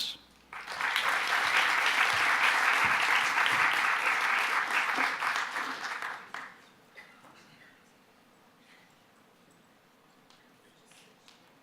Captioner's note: applause